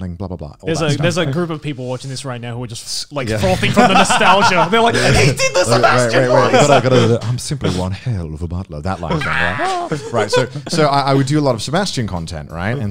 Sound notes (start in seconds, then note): 3.4 laughs; 9.2 screams